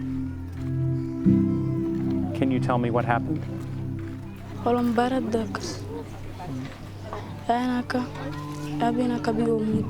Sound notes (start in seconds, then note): 4.7 speaking in foreign language